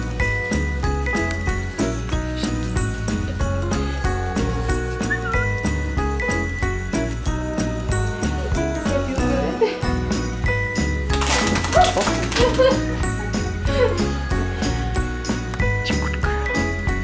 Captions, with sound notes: [Whistle] Does that feel good? Woo. [Laughter] Such a good girl.